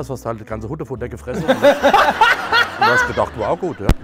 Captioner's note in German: Lautes Auflachen